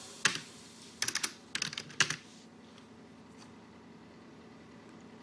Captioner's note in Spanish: Tecleos